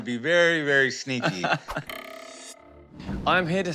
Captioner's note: chuckles